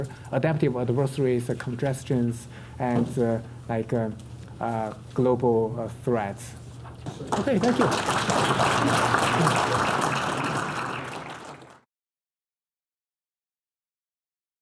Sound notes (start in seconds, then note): 7.2 audience applause